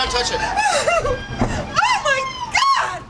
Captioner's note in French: pleure